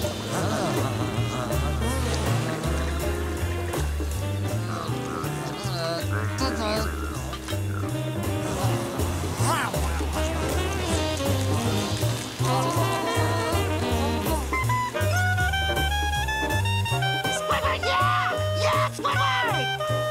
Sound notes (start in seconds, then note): 5.3 groaning; 14.5 clarinet music playing